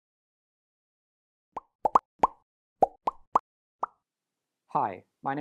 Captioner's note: popping Sounds